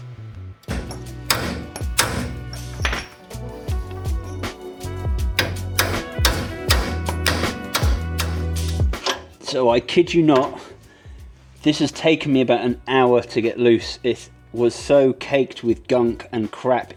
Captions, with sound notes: (upbeat music) (hammering) So I kid you not, this has taken me about an hour to get loose, it was so caked with gunk and crap